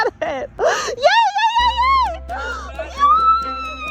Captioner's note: gasping